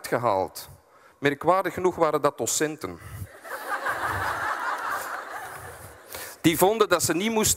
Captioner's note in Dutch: publiek lacht